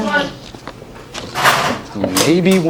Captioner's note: paper sounds